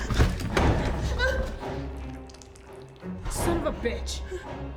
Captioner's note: lock rattling; suspenseful music; dramatic music; Claire gasps